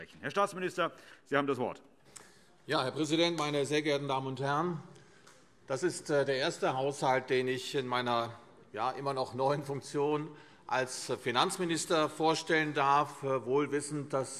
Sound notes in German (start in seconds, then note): none